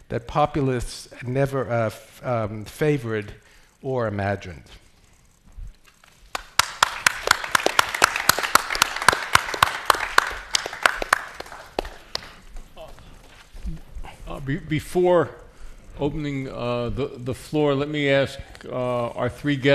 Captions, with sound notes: that populist never favored or imagined. (attendees applauding) - Before opening the floor, let me ask our three guests.